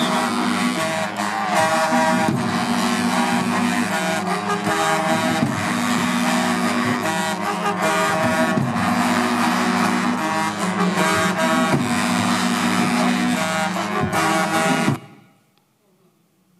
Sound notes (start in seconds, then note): 1.1 applause